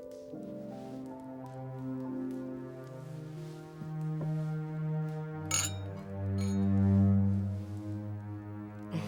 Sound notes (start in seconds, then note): 4.0 ominous music; 5.5 clinking